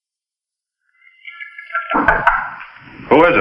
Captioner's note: knocking on door